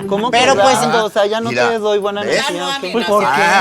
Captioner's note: boo groans